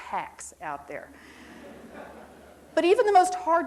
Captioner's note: audience quietly chuckles